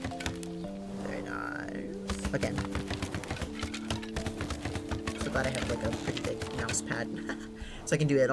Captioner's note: laughs